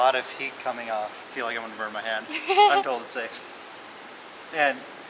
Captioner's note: laughter